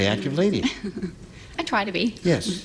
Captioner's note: laughter